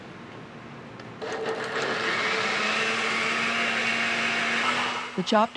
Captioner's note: grinding; voiceover